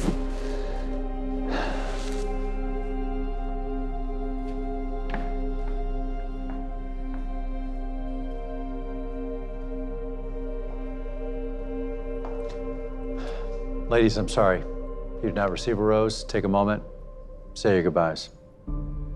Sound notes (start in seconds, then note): 0.0 breathes deeply; 4.0 solemn music; 13.1 sighs